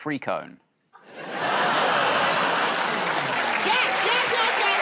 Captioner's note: laughter